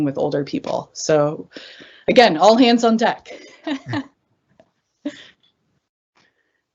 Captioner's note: chuckles